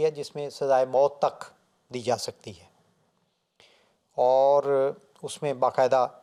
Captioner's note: Arabic